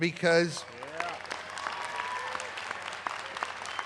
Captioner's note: applause